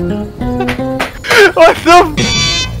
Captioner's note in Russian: бум бум бум